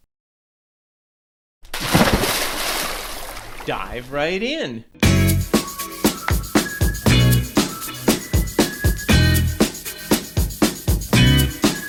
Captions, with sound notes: (water splash) - Dive right in. (lively music)